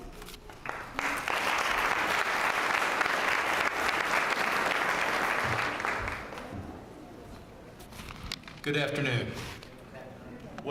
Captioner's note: applause